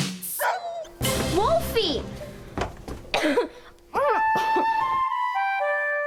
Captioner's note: cough sounds